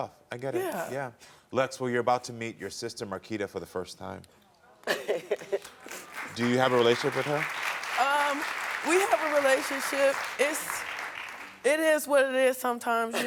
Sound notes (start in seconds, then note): 4.8 chuckling; 5.4 audience applauding